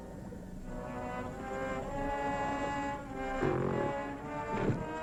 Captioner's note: gorilla growling